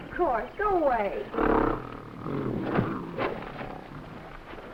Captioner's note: gorilla grunting